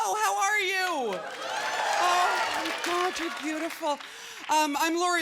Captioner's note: cheering